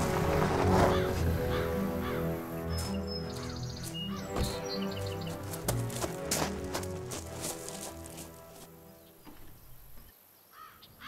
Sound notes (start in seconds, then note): 3.5 birds call